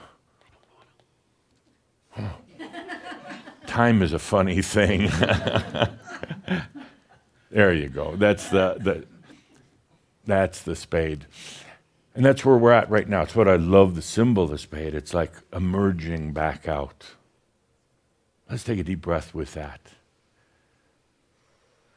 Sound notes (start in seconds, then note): 1.3 some giggles as goes through drawings from a previous event; 4.9 chuckles